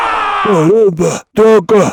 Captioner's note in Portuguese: grito